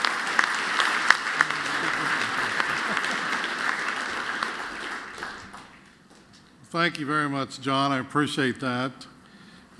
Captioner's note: applause